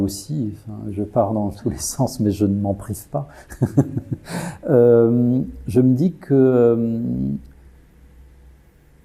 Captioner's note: laughs